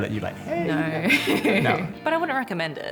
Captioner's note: laughs